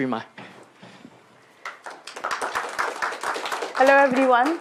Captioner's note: applause